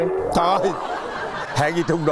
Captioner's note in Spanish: risas